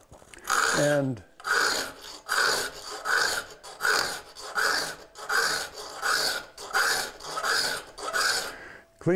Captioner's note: metal-on-metal grinding